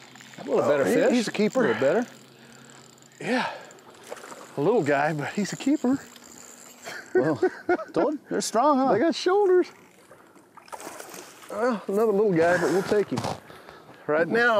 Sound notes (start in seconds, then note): 6.8 laughs